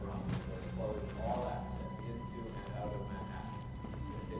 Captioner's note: man on TV